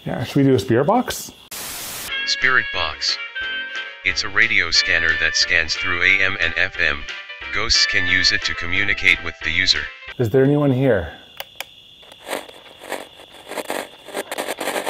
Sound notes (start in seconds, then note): 1.4 white noise hissing; 12.1 static crackles